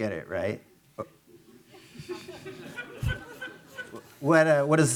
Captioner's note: attendees laughing